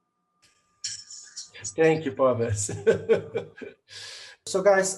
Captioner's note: laughs